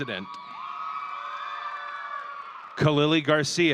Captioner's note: audience cheering